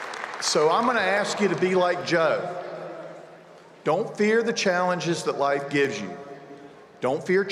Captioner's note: cheers and applause